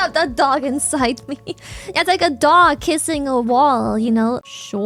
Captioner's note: laughs